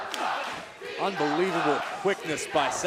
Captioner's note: fans chanting